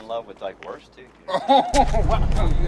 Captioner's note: Ford laughing